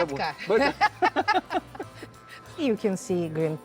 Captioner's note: both laughing